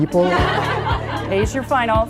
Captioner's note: laughing